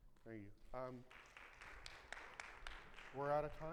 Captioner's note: audience clapping